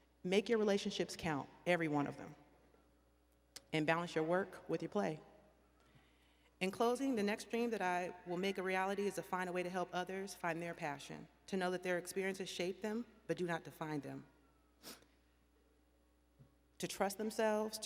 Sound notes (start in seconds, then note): none